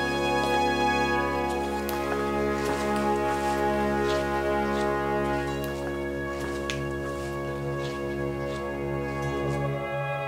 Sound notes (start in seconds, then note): 6.4 Baltasarv snapping